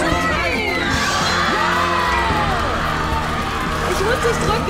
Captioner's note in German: Jubel, Applaus